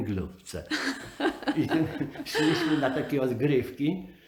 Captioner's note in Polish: śmiech